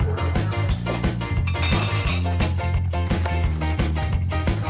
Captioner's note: cutlery clanks